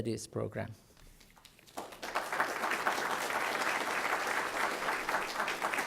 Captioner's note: applause